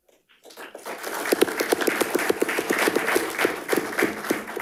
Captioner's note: audience applauding